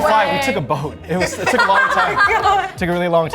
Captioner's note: members laughing